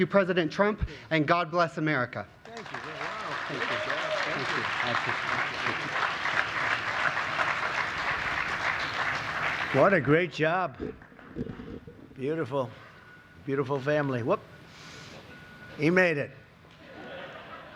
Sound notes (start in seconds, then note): 5.5 applause